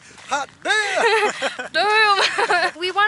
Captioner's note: laughter